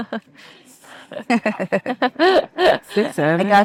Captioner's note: participant laughing